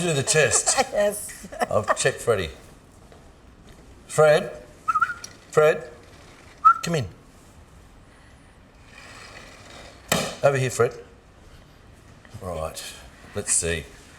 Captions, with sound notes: - I'll do the test. I'll check, Freddy. Fred? (whistling) Fred, come in. Over here Fred. All right, let's see.